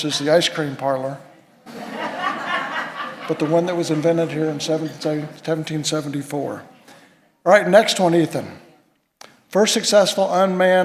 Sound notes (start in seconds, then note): 1.6 laughter